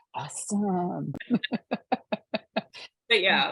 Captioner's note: laughing